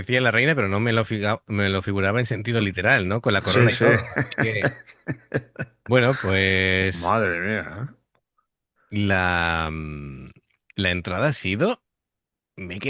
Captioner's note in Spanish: risas